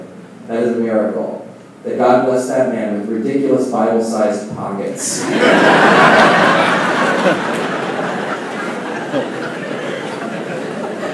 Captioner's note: laughing